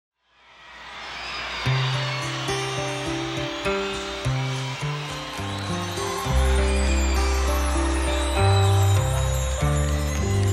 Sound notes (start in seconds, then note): 0.4 audience applauding; 1.7 gentle upbeat guitar music